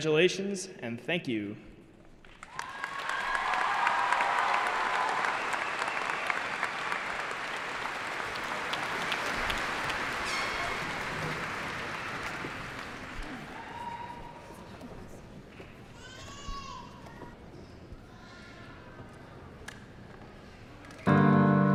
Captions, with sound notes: Congratulations and thank you. (applause)